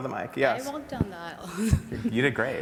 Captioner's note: laughs